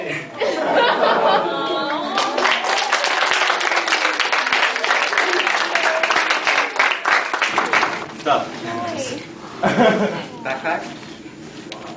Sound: awws.., applause

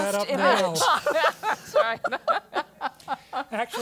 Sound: laugh

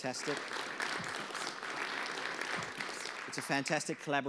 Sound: audience applause

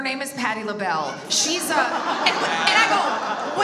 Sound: audience laughs

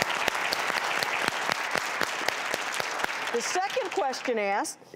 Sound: applause

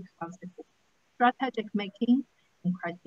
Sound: faintly speaking

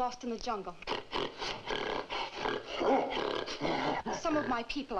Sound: gorilla snorting

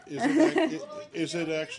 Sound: laughter

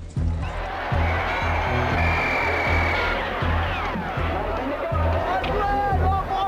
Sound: yelling, whistles blowing; guns firing; speaking Spanish

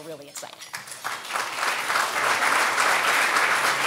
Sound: applause

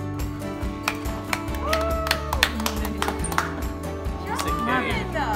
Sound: clapping and cheering

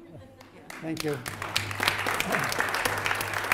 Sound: clapping

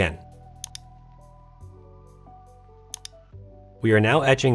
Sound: mouse clicking

